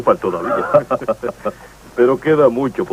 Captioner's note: both laugh